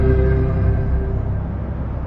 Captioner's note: traffrafficic h humum